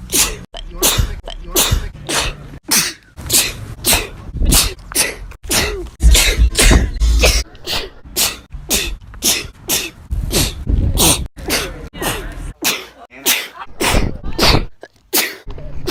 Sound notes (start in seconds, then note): 2.6 sneeze; 2.6 sneezes in latin; 9.2 sneeze; 9.2 sneezes during gym class; 10.9 sneeze; 12.5 sneezes aggressively; 12.5 sneeze; 14.8 sneezes in italian